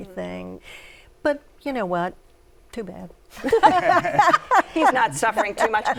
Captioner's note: laughter